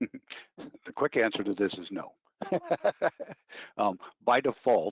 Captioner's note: laughing